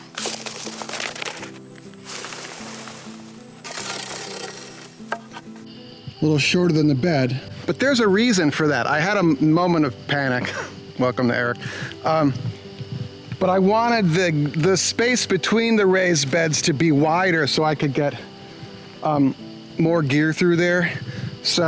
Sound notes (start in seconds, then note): 1.9 dragging scrape; 3.6 loud dragging; 10.5 laughs